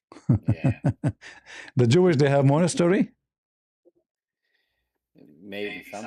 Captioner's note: ketawa